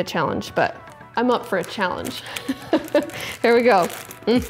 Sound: laughs

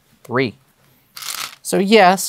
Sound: stones rattling

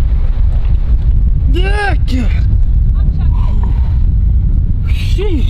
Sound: grunting

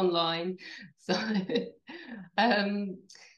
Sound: laughs

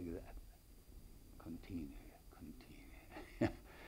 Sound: chuckles

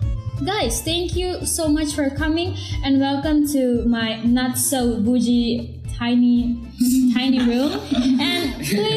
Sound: laugh

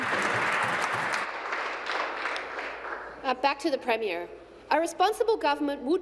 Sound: applause

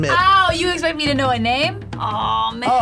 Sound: laughs

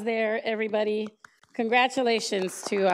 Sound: members applauding

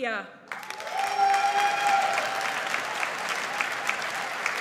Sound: audience applauds

